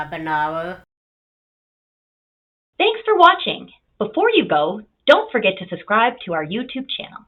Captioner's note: voiceover